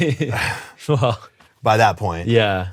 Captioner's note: Ian laughs